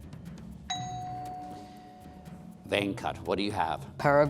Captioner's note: bell dings